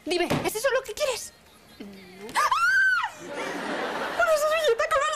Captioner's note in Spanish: grita